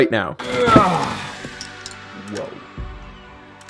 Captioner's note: grunts